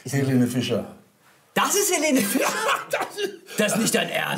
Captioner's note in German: lachend